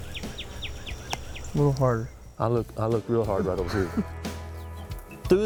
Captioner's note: laughter